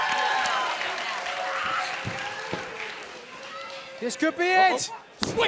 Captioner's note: crowd cheering